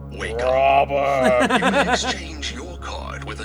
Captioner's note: laughing